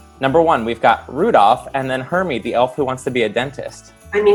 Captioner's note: laughing